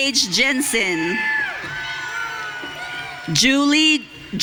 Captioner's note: audience cheering